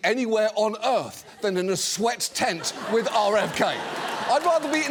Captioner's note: studio audience laughs